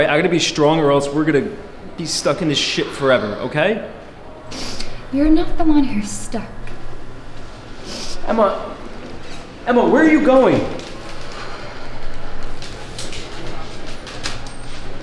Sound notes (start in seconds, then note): 11.2 emma exhales